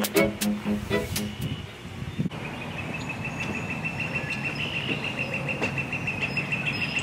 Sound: nature sounds

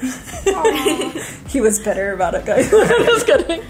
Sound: laughing

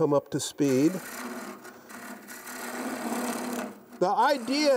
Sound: chisel scrapes

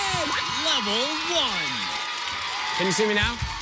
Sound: cheers and applause

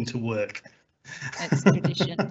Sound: laughs

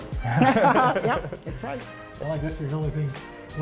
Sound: laughter

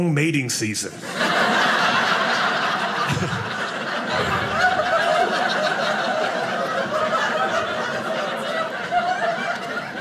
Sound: audience laughing

